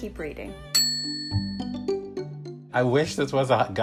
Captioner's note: bell dings